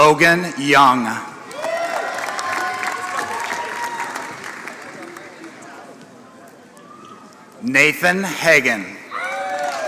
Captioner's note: applause; applause